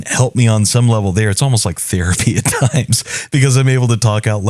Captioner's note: laugh